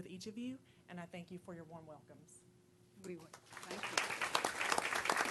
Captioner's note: applause